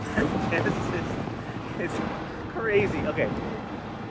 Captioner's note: laugh; giggling